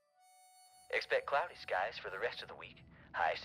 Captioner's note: radio Announcer